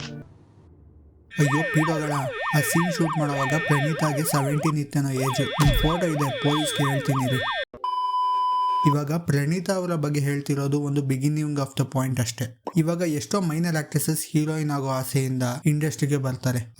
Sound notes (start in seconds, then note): 7.8 beep